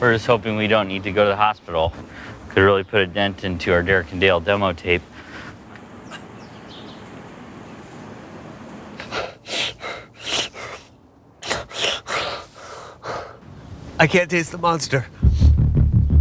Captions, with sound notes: - We're just hoping we don't need to go to the hospital. It could really put a dent into our "Derek and Dale" demo tape. (Derek panting) - I can't taste the Monster.